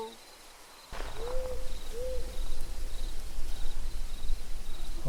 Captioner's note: owl hooting